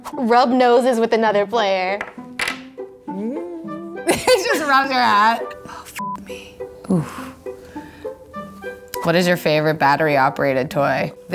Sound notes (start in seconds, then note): 3.2 laughs